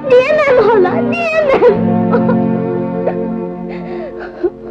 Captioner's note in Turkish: Hıçkırıklar